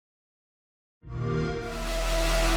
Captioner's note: xbox sound